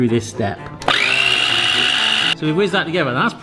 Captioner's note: mixer whines